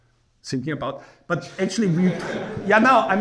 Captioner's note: laughing